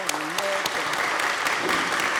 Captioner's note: applause